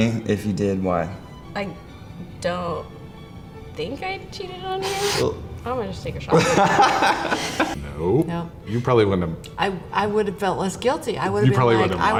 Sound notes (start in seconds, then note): 6.4 both laugh